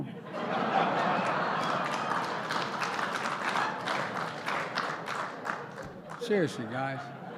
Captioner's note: laughter and applause; laughter